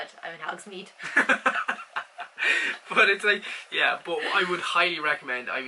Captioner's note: laughs